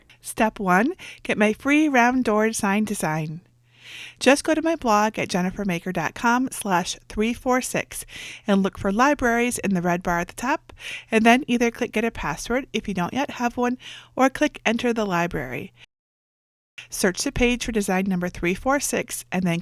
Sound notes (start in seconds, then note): none